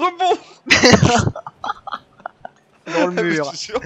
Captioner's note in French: Rires